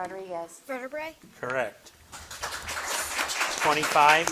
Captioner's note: audience clapping